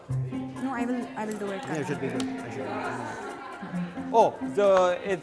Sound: mumbles

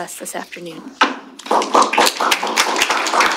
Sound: applause

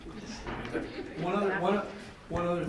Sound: board members laughing

